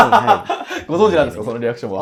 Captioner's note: laughing